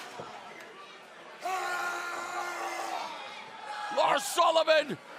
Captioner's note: crowd chatter